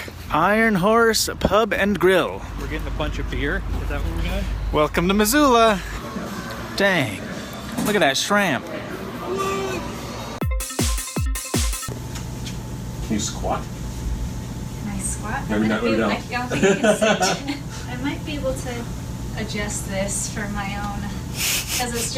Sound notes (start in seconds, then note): 10.4 dance music; 16.5 laugh; 20.8 chuckles